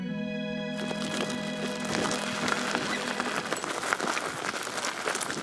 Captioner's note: gravel crunching